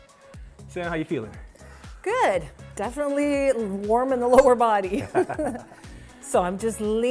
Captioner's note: both laughing in unison